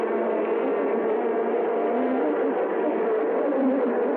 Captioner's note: bees buzzing